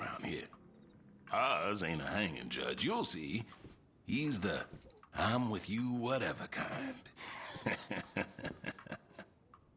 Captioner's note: laughs